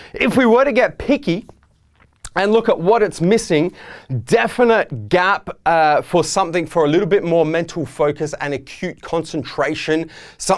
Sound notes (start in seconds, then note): none